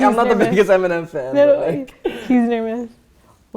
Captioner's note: chattering